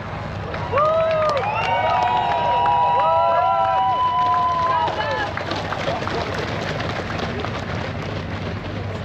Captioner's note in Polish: Aplauz